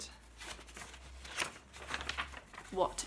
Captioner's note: paper rustling